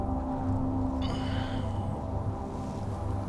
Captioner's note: стонет